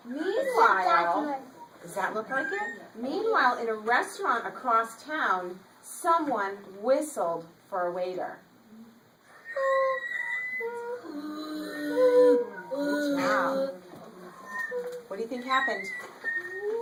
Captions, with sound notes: Meanwhile Does that look like his hat? Meanwhile in a restaurant across town, someone whistled for a waiter. (children begin whistling) Good job. What do you think happened?